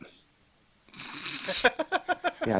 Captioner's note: laughter